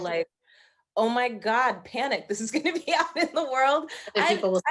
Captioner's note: laughing